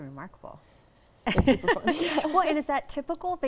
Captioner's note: laughing